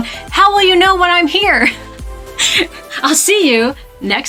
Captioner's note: laughs